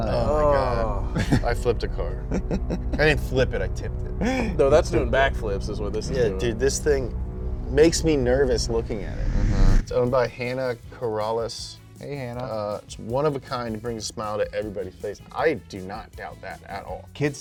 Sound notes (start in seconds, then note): 2.1 chuckles; 6.9 air whooshing